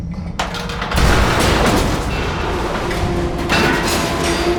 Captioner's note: loud crash; metal clattering